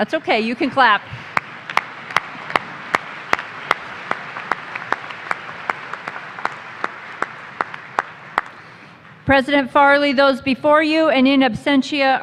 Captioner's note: applause